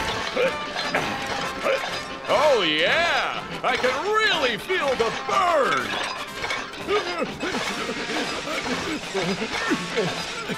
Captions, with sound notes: [grunting] Oh, yeah. I can really feel the burn. [grunting]